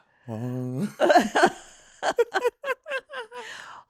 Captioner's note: laughter